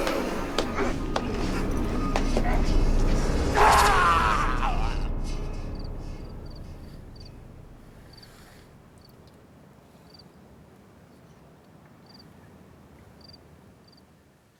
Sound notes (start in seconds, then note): 0.2 sound of attacker hitting man; 3.4 sound of screaming